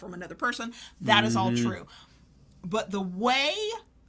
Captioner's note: none